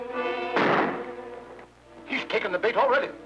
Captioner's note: gunshot popping